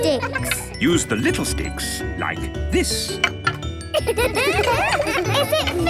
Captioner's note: laughter